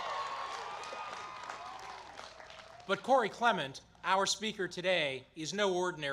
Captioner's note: applause